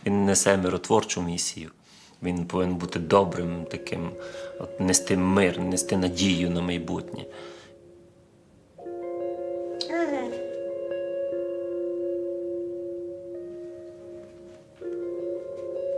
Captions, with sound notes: He should be a peacemaker, carry peace, carry hope for the future. [Inspiring celestial music] [Baby grunting]